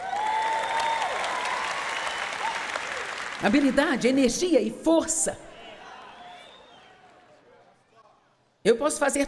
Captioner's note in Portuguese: audiência se alegra